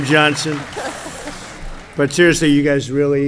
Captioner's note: laughter